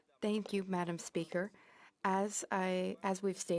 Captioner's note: speaking in French